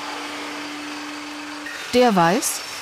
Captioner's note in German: Maschinenlärm